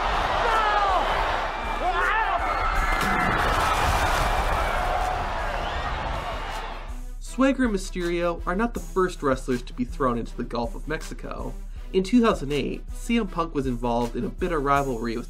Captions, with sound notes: (crowd screams) (water splashes) (upbeat music) Swagger, Mysterio are not the first wrestlers to be thrown into the Gulf of Mexico. In 2008, CM Punk was involved in a bitter rivalry